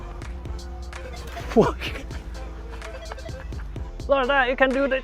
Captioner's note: laughing